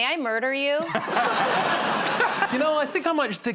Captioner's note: laughter